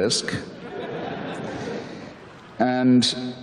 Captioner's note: audience laughter